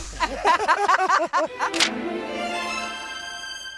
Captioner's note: both laughing; light hearted music